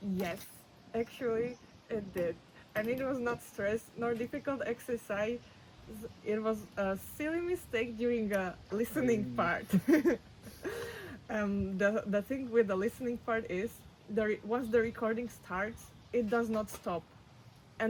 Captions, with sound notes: Yes. Actually, it did. I mean, it was not stress nor difficult exercise. It was a silly mistake during the listening part. (laughs) Um, the, the thing with the listening part is there ... once the recording starts, it does not stop. Right.